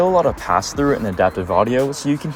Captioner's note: cars drive past; electronic music fades in